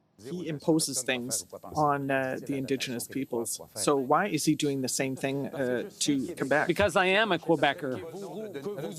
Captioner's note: speaking French